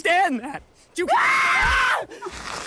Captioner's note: screams